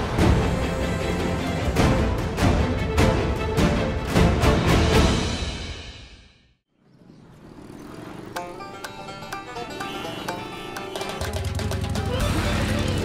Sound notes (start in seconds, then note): 0.0 dramatic music; 6.7 traffic noise; 10.3 peppy music